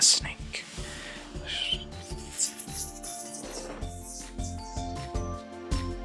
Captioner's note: hissing noises